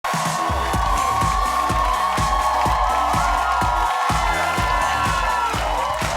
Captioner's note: crowd cheering; theme music